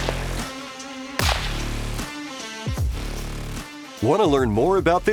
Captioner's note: upbeat music; gun firing